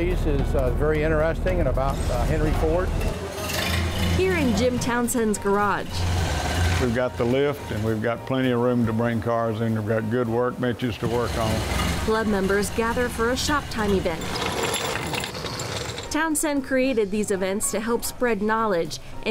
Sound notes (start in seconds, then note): 14.4 wheels rattle